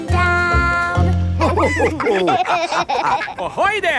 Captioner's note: all laughing